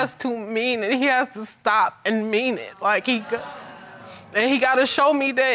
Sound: audience disagreeing

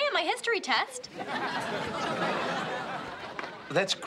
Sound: audience laughing

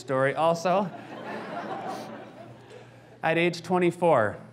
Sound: audience laughs

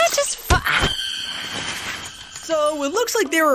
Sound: screaming

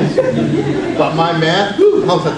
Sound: audience laughs

